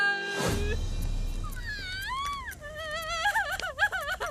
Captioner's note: sadie wailing